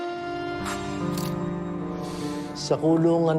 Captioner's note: camera shutter clicks